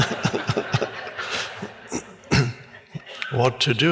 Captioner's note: audience laughs